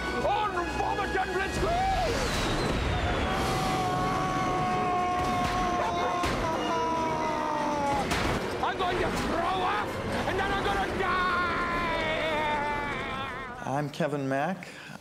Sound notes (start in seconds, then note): 3.2 grinch yelling